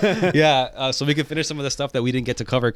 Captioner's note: laughing